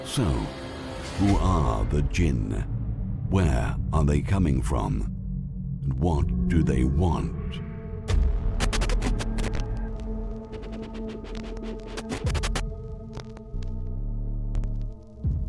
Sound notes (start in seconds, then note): 10.5 static buzzing